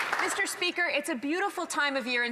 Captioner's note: some Applause